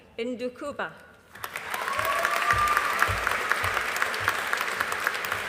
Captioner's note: audience applauding